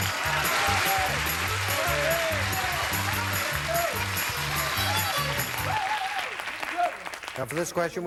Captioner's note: audience applauding